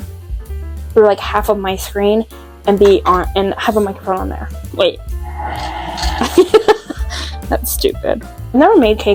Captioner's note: laughs